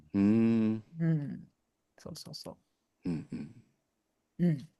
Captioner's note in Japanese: 咳払い